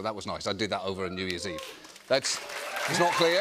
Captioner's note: scattered cheers